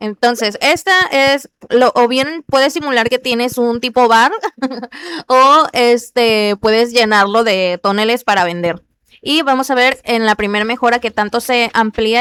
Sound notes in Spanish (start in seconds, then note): 4.3 risas